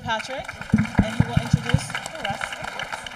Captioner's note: audience applauding